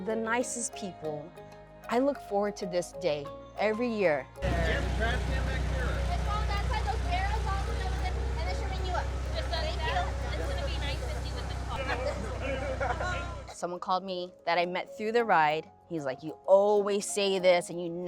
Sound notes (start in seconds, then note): 11.8 participant laughs